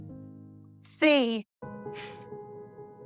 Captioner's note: stuttering; Helen exhales